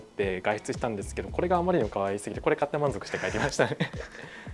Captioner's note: laughs